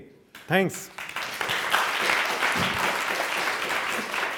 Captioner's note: audience applauding